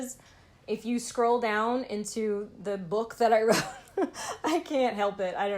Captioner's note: laughing